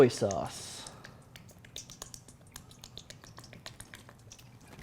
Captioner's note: liquid dripping